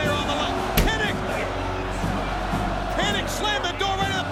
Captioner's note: door slams